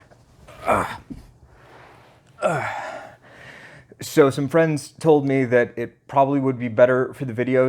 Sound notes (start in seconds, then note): 0.5 grunting